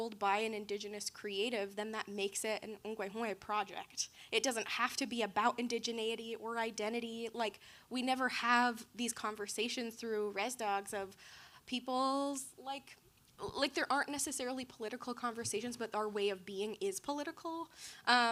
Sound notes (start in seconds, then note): 2.8 speaking in foreign language